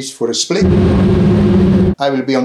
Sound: plane engine rumbling

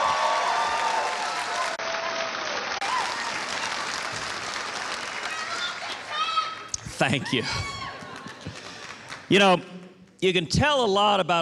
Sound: applause

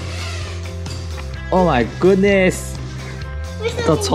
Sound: engine sound

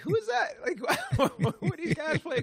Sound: laughter

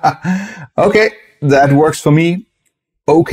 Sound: laughs

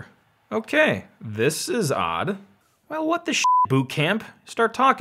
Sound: beeps

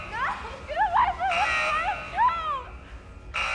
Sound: crying

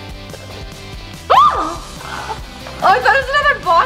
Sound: yelps

